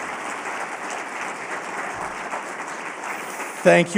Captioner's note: applause